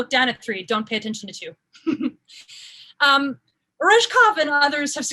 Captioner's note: laughs